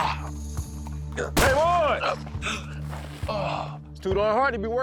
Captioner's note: gunshot